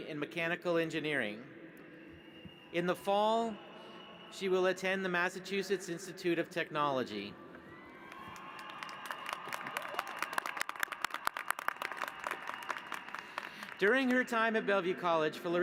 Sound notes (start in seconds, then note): 8.0 applause